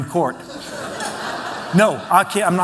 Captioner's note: laughter